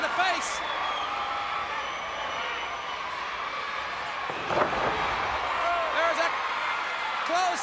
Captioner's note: crowd cheering